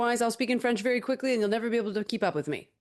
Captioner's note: speaking French